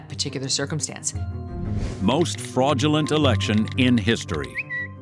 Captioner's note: tweet sends